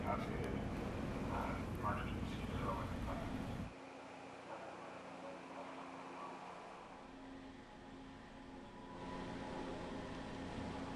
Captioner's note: radio chatter